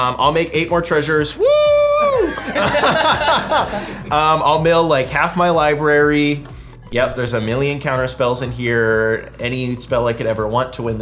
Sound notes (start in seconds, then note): 2.1 all laughing